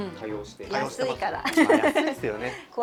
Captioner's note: laughs